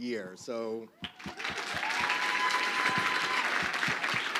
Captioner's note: crowd clapping